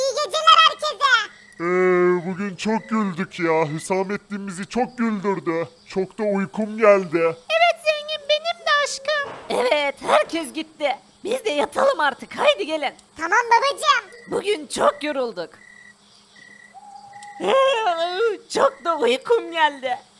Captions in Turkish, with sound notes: Herkese iyi geceler! Bugün çok güldük! Hüsamettin bizi çok güldürdü! Çok uykum geldi! Evet Zengin, benim de aşkım. Evet, herkes gitti! Biz de artık yatalım. Hadi gelin! Tamam babacım! Bugün çok yorulduk! (Esneme sesi) Uykum çok geldi!